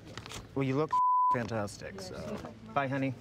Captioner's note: beep